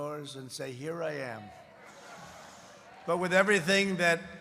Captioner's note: laughter